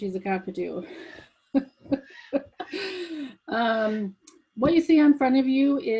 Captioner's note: laughs